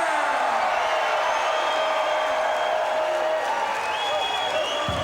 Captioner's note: audience cheering